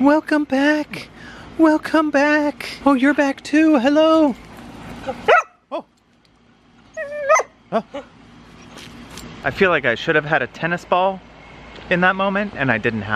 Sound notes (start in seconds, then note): 5.2 dog barks